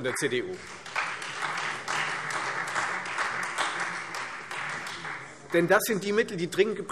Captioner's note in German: Beifall